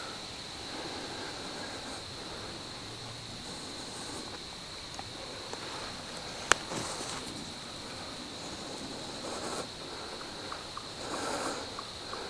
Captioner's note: wind / heavy breathing